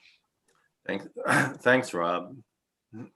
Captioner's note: coughs